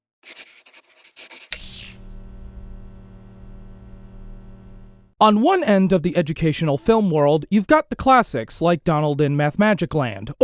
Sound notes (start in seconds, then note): 0.2 pencil drawing sounds; 1.6 electric sounds